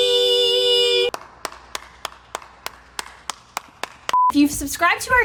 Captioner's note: hands clapping